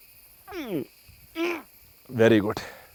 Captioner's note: grunts